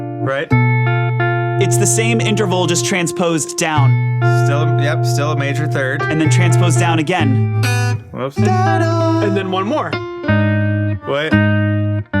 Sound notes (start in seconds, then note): 0.0 mellow guitar music; 3.9 mellow guitar music; 7.3 mellow piano music; 9.0 humming softly